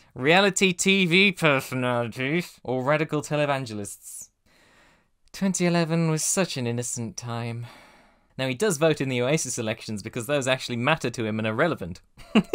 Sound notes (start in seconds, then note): 4.4 deep breath; 5.2 sighing; 12.2 weird Tigger Joker laugh?